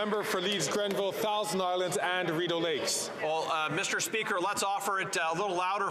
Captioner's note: some Applause